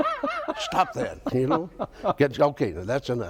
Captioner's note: laughs